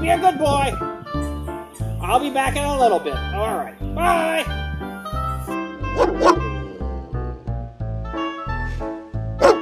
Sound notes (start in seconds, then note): 5.9 barks